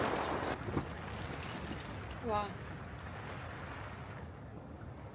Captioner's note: a strong wind